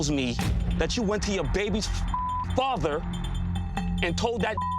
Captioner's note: beep; beep